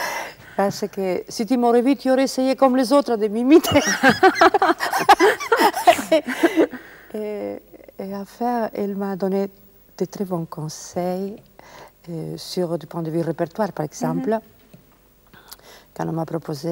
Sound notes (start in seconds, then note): 3.6 laughs